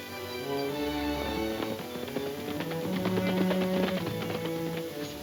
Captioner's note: horses galloping